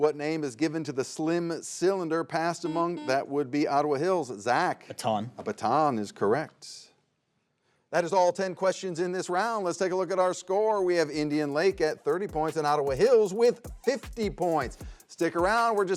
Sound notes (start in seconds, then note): 2.6 buzzer beeps